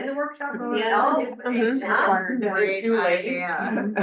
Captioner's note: laughs